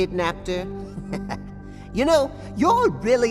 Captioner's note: chuckle